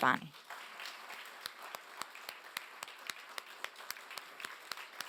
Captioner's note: applause